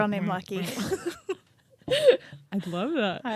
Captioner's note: both laugh